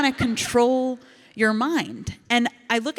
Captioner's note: audience laughs